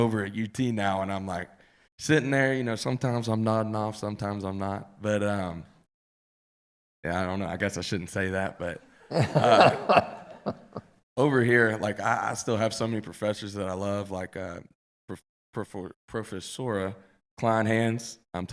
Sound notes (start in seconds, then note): 9.1 laughing